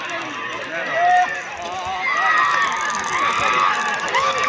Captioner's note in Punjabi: ਤਾੜੀਆਂ